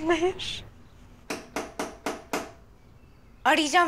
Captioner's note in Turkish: Kapı vuruluyor